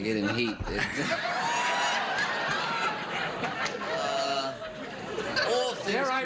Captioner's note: audience laughs